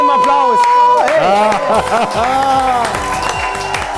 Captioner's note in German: Lachen, Jubel, Applaus